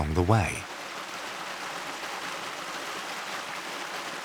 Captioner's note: water sloshes